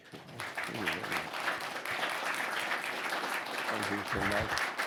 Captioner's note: audience applauding